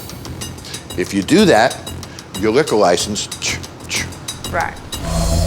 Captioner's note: chuffs